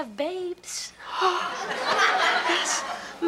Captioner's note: Kevin gasps; audience laughs